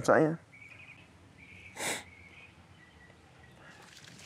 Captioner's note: sniffs